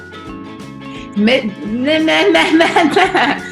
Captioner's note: laughs